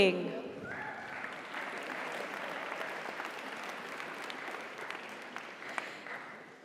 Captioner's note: audience applauds; audience cheers